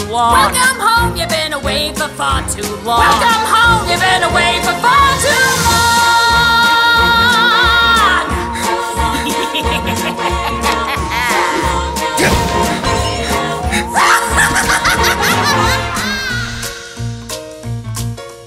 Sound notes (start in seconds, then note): 8.9 continues to laugh maniacally; 8.9 maniacal laughter